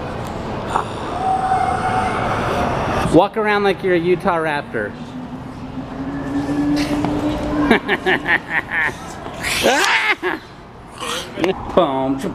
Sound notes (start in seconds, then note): 7.4 chuckling; 9.7 children growling; 12.1 making beatbox noises